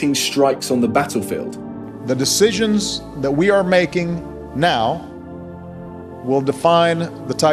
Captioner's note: soundbite of archived recording